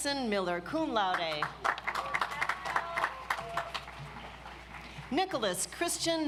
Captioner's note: audience applauds